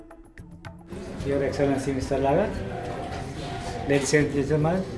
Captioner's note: foreign Language